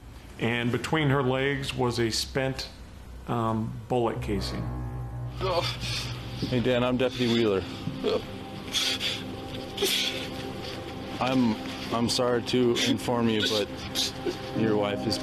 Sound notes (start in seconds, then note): 6.9 sobs